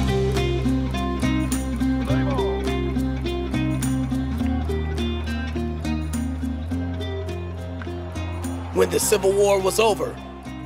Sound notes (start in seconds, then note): 0.2 upbeat music; 3.7 crowd cheering; 3.7 upbeat music